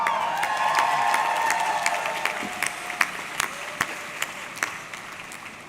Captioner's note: audience cheering; audience clapping